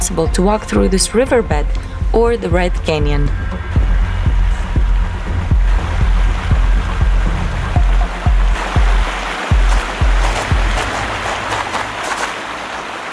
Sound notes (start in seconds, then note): 5.9 water rushing